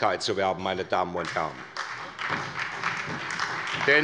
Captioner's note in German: Beifall bei der SPD